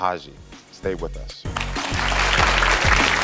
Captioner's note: upbeat music; crowd applauding